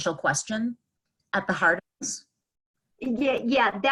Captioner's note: audio cuts out